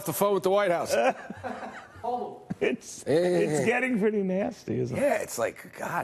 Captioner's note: laughter